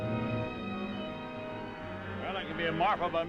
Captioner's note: gentle music; cows mooing